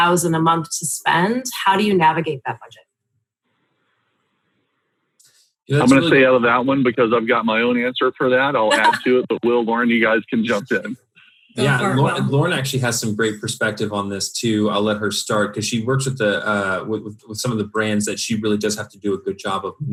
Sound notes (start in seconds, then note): 8.6 laughs